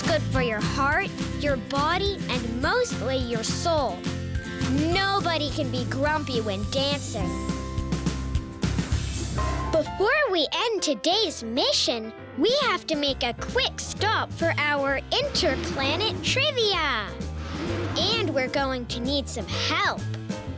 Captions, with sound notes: It's good for your heart, your body, and mostly your soul. Nobody can be grumpy when dancing. (whooshing) (jazzy piano music) Before we end today's mission, we have to make a quick stop for our (whooshing) Interplanet Trivia! And, we're going to need some help.